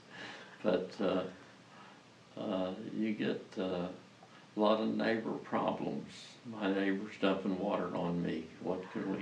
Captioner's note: laughs